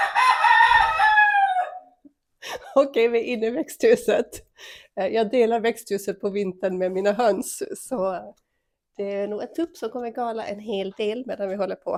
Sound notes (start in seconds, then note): 0.0 cock-a-doodle-doo!